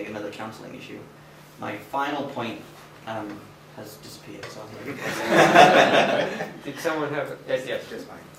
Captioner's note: laughter